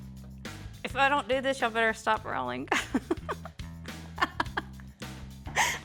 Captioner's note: laughs